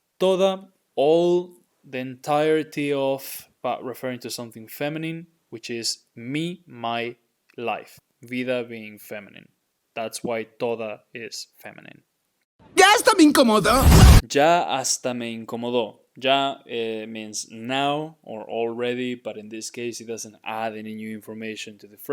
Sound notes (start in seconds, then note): 0.0 speaking in Spanish; 10.7 speaking in Spanish